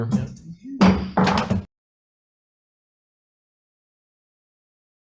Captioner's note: gavel thunking